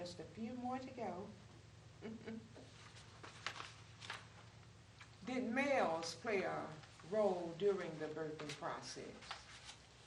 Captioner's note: laughs